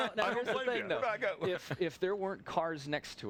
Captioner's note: laughter